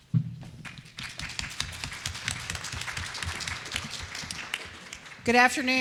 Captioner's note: applause